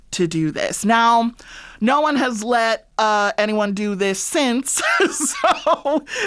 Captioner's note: laughter